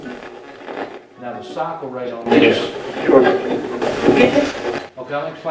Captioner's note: radio voices; radio voices